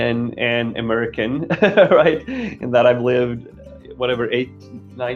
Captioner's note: laughing